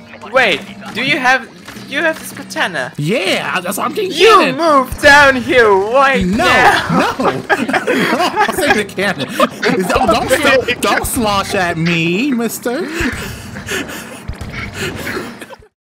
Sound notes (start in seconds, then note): 6.2 laughing; 14.8 laughter